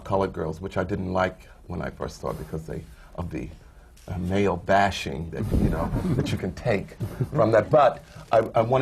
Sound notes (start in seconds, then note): 6.9 laughter